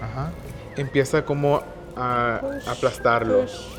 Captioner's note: speaking Spanish